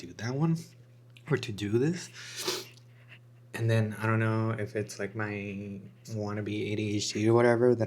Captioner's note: snorts